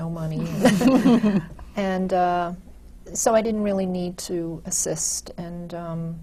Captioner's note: laughs